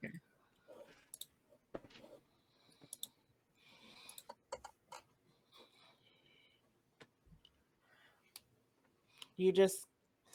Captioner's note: Roll20 clicking